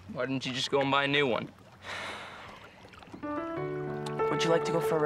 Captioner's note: sighs